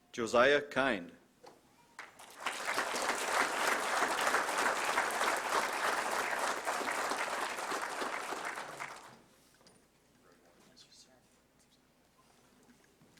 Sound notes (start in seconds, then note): 1.9 applause